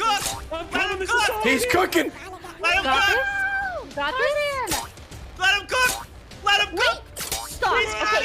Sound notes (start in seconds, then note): 1.9 laughs; 2.7 everyone laughs